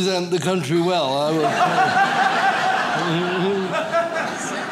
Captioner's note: audience laughs